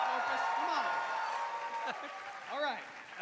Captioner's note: cheering